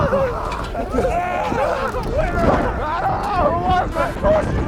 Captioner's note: laughing